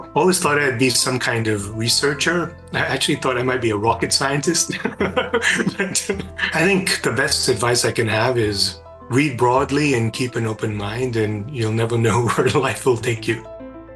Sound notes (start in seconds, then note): 4.7 laugh